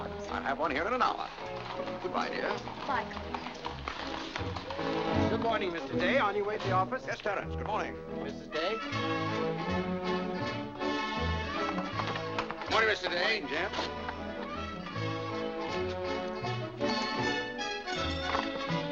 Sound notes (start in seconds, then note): 3.9 hooves trotting